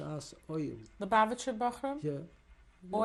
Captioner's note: non-english